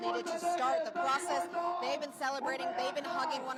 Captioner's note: applause